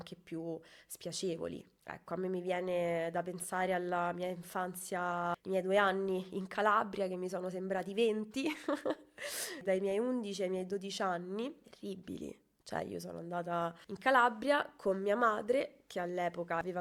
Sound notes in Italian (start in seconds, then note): 8.4 risate